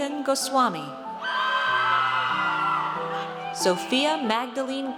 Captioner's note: audience cheers